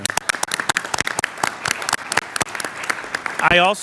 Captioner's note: applause